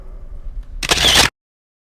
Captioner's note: camera click